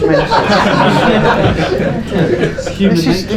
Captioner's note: laughing